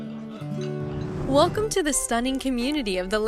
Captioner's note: whoosh